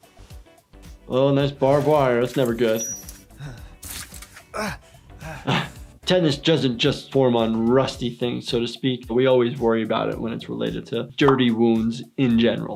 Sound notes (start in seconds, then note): 2.6 man groaning